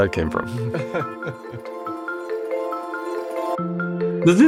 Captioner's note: laugh